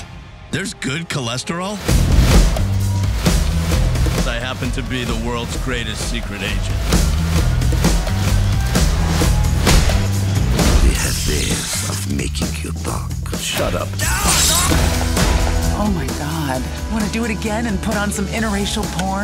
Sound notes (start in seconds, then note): 1.9 adventurous music; 14.0 shouts